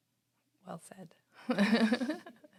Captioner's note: laughs